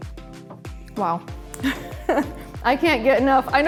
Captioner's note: laughs